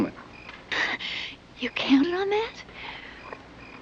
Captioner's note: relieved sigh